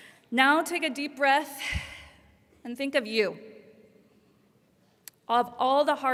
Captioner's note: breaths deeply